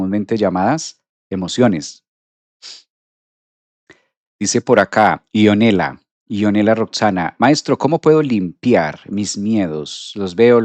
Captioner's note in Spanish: resoplido